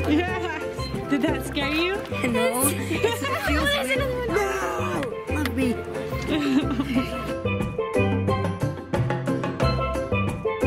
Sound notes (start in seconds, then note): 0.2 laughing; 1.6 voiceover; 3.9 laughing; 7.8 tropical music